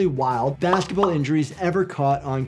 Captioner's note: graphics pop